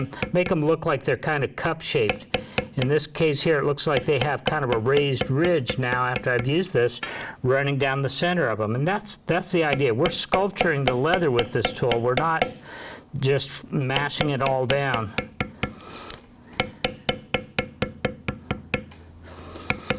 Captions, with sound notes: Make them look like they're kind of cup-shaped. In this case here, it looks like they have kind of a raised ridge now after I used this, running down the center of them. And that's the idea. We're sculpturing the leather with this tool. We're not just mashing it all down. (tapping)